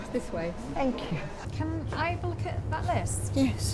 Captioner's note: none